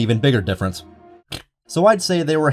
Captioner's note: death noise